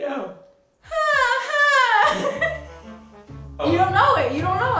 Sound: mimic tv show theme

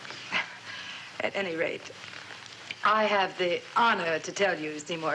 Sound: sighs

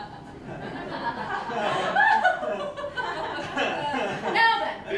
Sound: Ms. Norcross laughs; Maxim and Sarah join in laughing, nervously; Maxim and Sarah awkwardly stop laughing

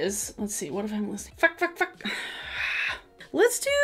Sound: sighs

